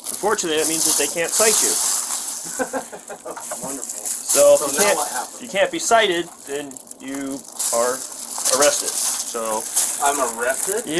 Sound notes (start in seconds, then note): 2.4 laughs